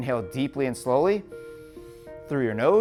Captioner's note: inhales deeply